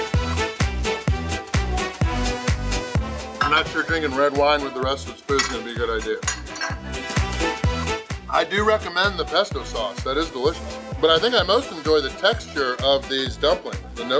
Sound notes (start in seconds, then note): 0.1 upbeat music; 6.2 fork clinking against plate